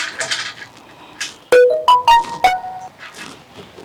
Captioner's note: suena el móvil